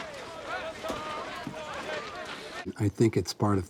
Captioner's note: crowd chatter